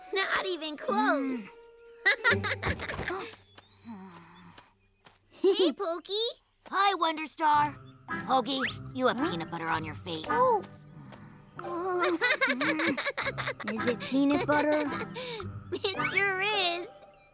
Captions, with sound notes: -Not even close. -Hmm. -[laughs] -Huh? -[chuckles] -Hey, Poki. Hi, Wonderstar. -Hogi, you have peanut butter on your face. -Oh! -Uh... mmm. -[laughs] Is it peanut butter? It sure is.